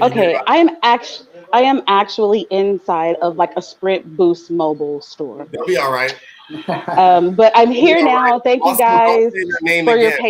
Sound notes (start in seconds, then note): 7.8 laughing